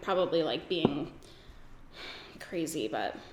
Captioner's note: sighs